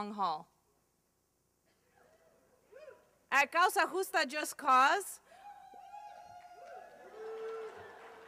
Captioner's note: slight applause